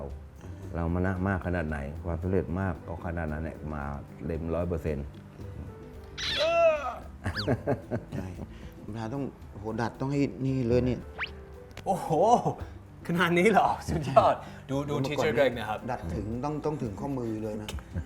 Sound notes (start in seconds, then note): 6.2 cry sound; 7.2 laughing sound